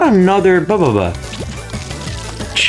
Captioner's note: mating Call